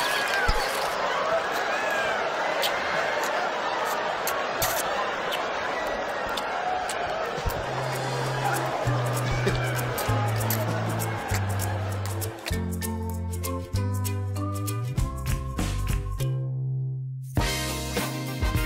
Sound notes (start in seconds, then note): 2.5 kissing; 8.8 upbeat music